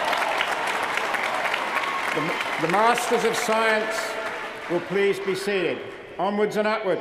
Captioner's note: cheers & applause